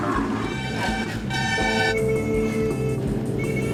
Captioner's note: horns blaring